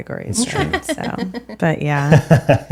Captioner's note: laughing